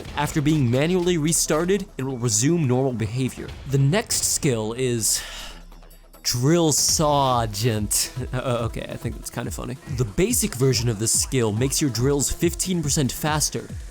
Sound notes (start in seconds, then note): 5.1 sigh